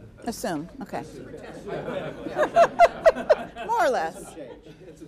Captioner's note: all laughing